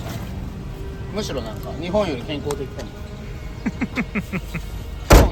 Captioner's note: laugh